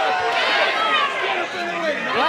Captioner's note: cheers and applause